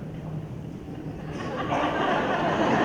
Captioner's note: laughter